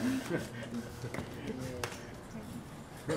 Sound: laughs

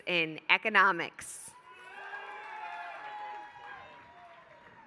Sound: applause

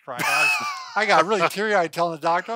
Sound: laughs

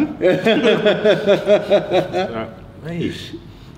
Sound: laughs

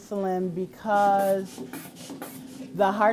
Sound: blood pressure cuff inflating

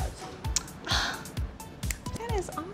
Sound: claps

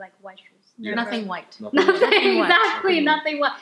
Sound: laughter

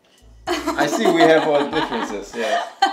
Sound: laughs

